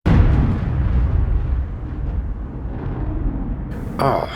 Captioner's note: thunder clap